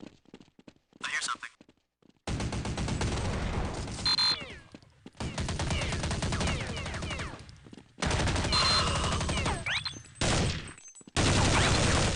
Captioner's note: game sounds - More shooting guns and footsteps